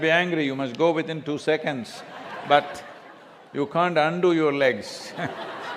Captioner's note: laughter